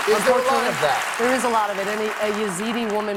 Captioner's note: applause